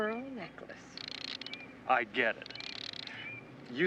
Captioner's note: car rattling